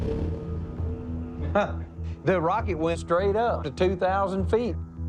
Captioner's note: laughs